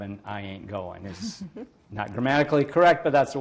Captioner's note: laughs